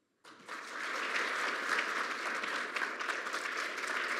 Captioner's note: audience applauds